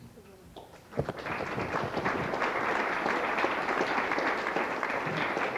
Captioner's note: applause